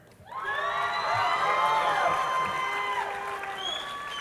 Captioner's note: crowd cheering